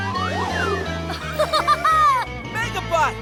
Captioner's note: laughing